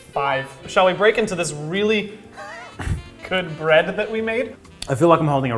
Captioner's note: laugh